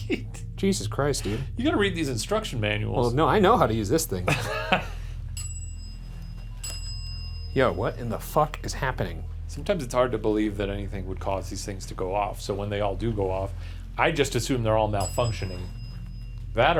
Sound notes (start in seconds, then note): 0.0 laughing; 5.2 bell ringing